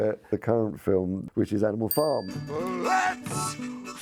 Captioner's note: bell chimes